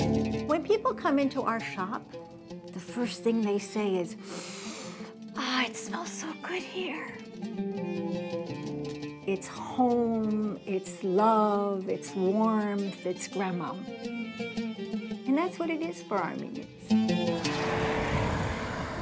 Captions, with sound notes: - When people come into our shop, the first thing they say is, (sniffs) "Ah, it smells so good in here." It's home, it's love, it's warmth, it's grandma. And that's what it is for Armenians.